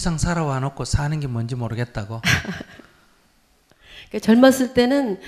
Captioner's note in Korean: 질문자 웃음